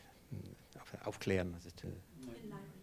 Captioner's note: speaking in foreign language